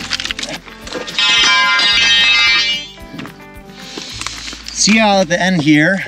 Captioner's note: drill clanging